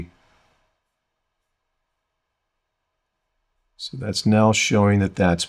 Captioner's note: silence